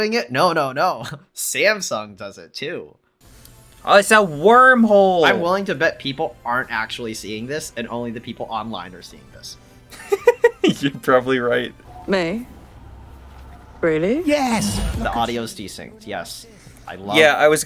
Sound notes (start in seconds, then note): 13.5 disembodied voice